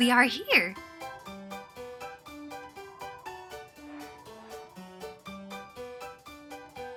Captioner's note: playful music; wind whistling